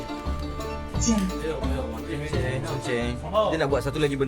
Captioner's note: speaking Chinese